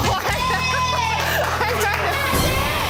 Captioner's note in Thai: เสียงไฟท์ติ้งสุดเร่าร้อน ดังมาจากที่ไหนซักแห่ง